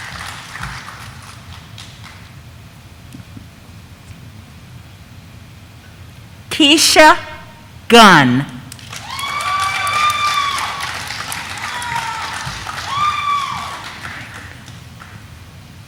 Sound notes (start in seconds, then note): 8.7 audience applauding; 8.8 audience cheering